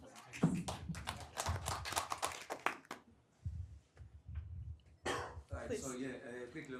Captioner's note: applause